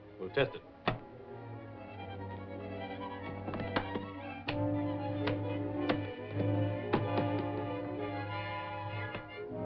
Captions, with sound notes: We'll test it. [SUSPENSEFUL MUSIC] [OPENING LATCHES]